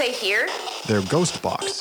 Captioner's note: voiceover